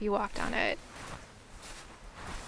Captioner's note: footsteps in Buckskin